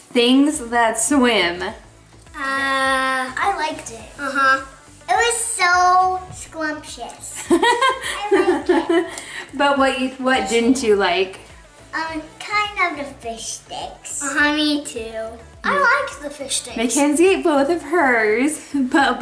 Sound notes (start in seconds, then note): 7.4 laughing